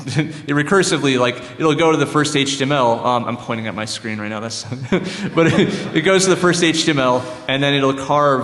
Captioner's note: laughter